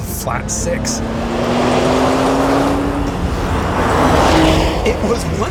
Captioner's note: engine revving